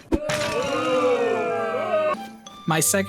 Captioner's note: booing